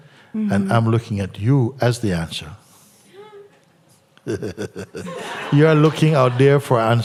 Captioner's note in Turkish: gülüşler